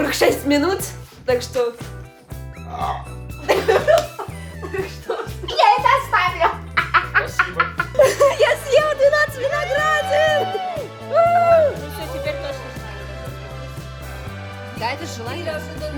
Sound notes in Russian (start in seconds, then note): 2.6 отрыжка; 3.4 смех